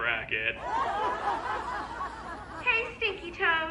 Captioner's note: crowd laughs